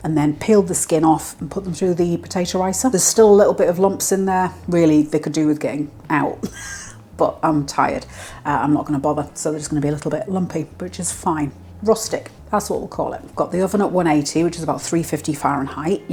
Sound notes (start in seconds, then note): 6.4 laugh